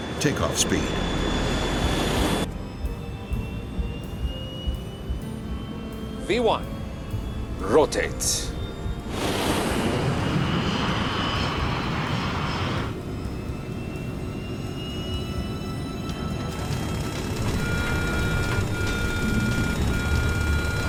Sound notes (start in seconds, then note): 2.6 engines whine; 9.2 plane roars; 12.9 engines whine; 15.6 suspenseful music; 17.2 alarm blares